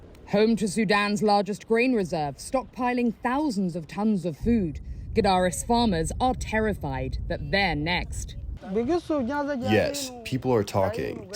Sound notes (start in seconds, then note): 10.1 through translator